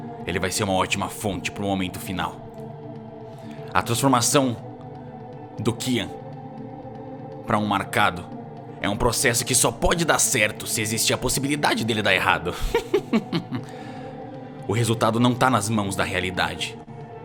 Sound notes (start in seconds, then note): 12.5 chuckle